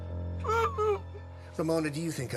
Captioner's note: Eleanor cries out; laughs